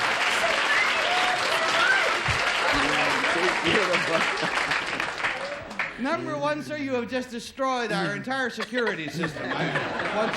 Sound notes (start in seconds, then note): 0.0 applause; 0.6 chattering